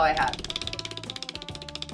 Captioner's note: wheel clicking